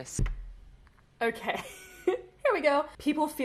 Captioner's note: chuckles